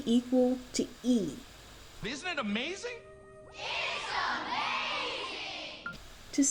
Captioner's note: kids, in unison